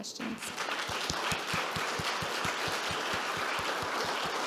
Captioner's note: audience clapping